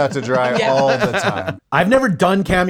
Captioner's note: laughs